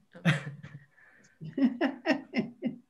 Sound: laughs

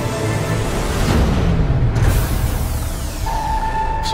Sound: engines Shutting Off

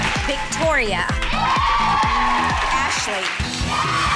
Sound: girls cheering

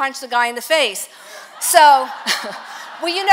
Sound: congregation laughs

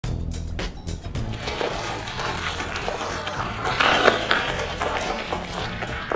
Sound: crushing noise

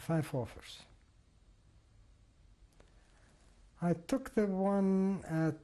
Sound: pauses for 3 seconds

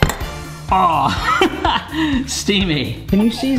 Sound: laughs

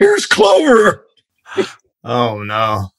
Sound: laughter

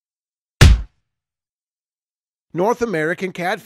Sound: punch sound

